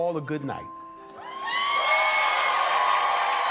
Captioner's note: cheers and applause